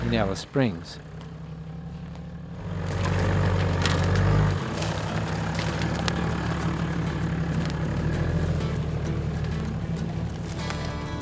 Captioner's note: vehicle sounds